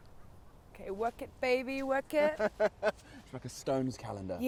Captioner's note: Dean laughs